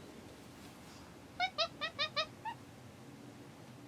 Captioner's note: monkey squeaks